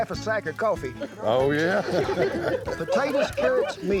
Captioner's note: laughter